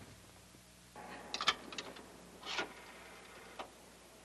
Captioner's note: coin clinks and phone dials